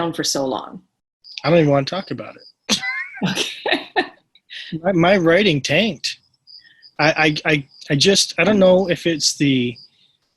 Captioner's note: laughter